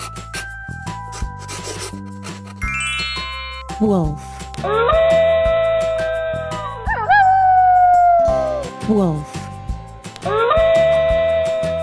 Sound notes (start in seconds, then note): 4.6 wolf sound